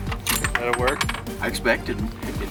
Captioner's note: clanking